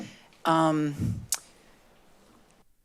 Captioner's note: smacks lips